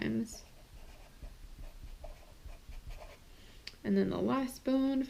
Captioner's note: pen scratching